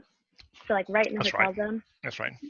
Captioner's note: voice muffled